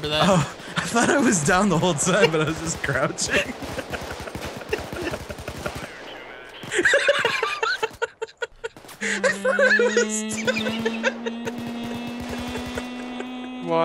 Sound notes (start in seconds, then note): 0.2 through laughter; 4.6 laughing; 6.5 uncontrollable laughter; 9.2 suspense strings; 12.1 continues laughing